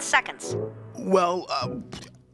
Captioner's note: stuttering